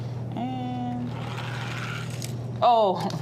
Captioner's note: toy car grating